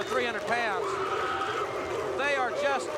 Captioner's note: audience barks